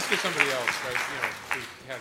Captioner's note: applause